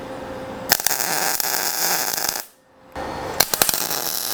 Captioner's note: torch buzzing